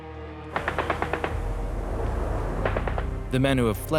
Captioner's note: gunfire